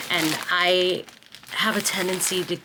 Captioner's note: none